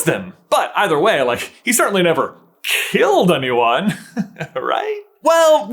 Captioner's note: chuckles